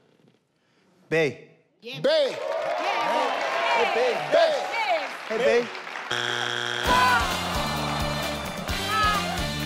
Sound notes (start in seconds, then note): 2.3 audience cheers; 6.1 board buzzes; 6.2 upbeat music